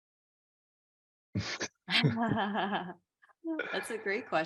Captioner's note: chuckles